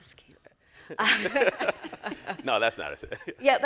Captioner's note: all laugh